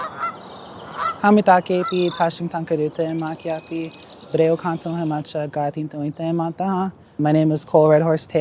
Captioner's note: introduction in Dakota